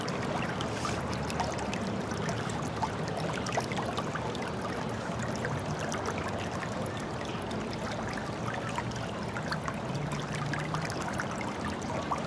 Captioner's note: running water